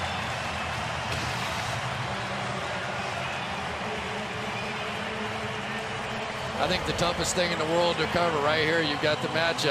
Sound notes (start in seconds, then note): 2.9 pa announcement